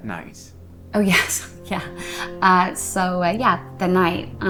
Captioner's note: chuckles